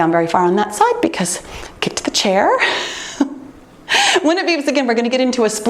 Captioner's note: laughs